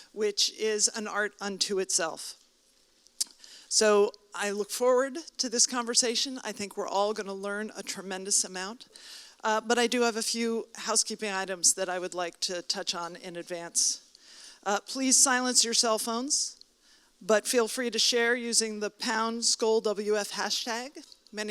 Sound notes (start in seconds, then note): none